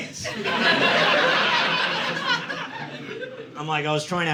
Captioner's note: audience laughing